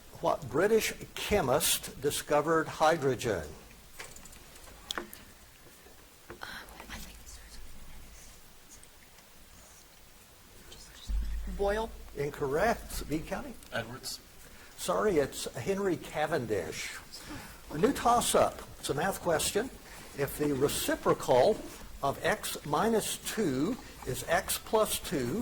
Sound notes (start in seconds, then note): 9.7 whispers indistinctly